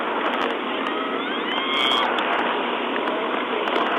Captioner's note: screams